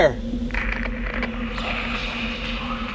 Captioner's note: static on radio